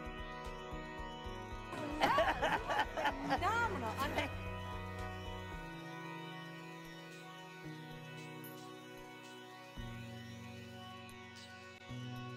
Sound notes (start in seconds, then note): 1.7 laughter